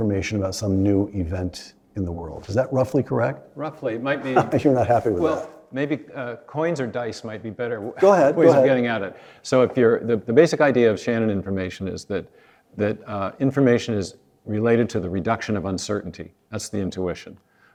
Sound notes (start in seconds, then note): 4.1 laugh